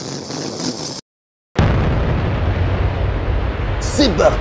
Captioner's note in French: boom